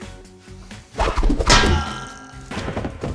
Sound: sounds of pain

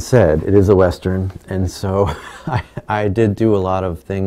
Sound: laughing

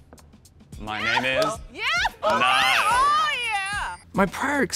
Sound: judges cheering

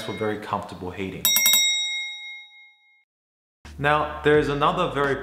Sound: bell rings; rapid bell ringing

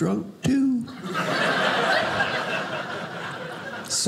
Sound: audience laughing

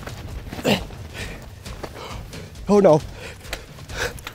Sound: huffing and puffing

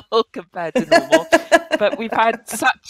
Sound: laughs

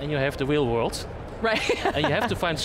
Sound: laughs

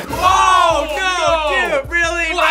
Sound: screams

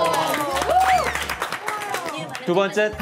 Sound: clap

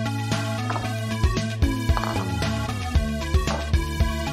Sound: glass clinking

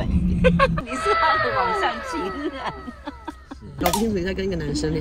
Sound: Maze's Mom is laughing

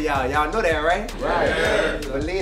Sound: crowd agrees

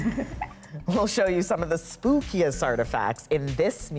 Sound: laughter

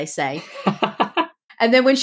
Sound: laughs

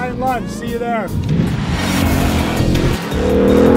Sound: car engine

